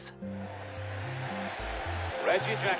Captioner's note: crowd noise